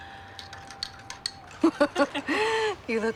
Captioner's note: laughing